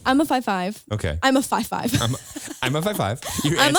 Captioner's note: laughs